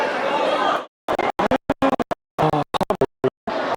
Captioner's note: signal interference